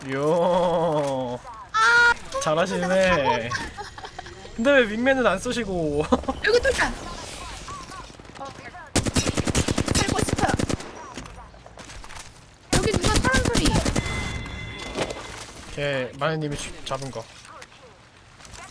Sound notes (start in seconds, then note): 6.3 laughs